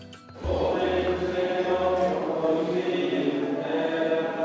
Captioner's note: chanting